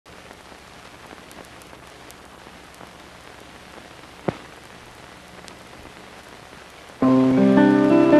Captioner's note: static sound; background music